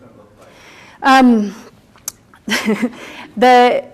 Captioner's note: chuckles